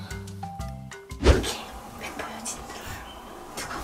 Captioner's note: whispering